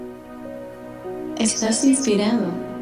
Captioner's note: ethereal voice